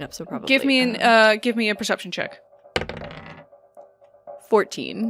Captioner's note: dice clunks